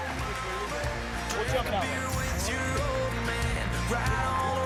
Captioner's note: cheering and Applause